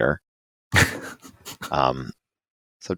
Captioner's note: laugh